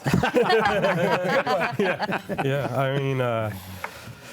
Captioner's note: group laughs